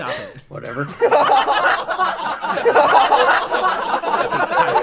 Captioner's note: far more laughter than this bit deserves